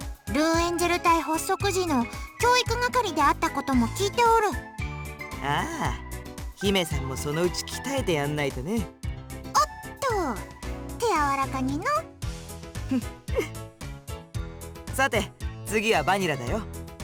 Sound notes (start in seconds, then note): 12.8 chuckle